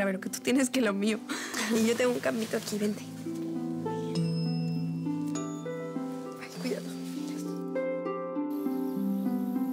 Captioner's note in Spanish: risas